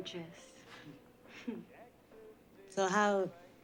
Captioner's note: chuckles